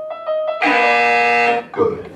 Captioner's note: loud BZZZZZZ